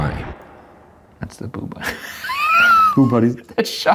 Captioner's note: laughing